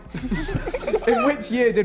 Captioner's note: men laughing